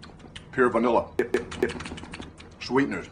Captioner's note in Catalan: Sons de mastegar